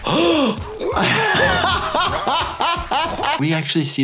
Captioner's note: gasping; Lumpy choking; laughing